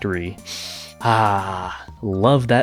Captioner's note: sniff